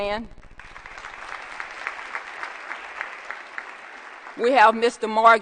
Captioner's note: applause